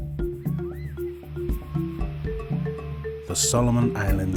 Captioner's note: birds chirp